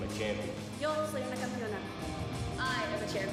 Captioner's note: speaking foreign language